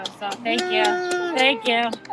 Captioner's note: cheers and applause